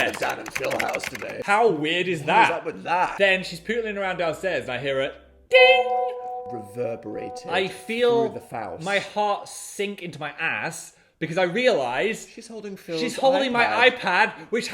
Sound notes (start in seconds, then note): 0.0 keyboard clacking; 5.6 imitates bell; 5.6 bell dinging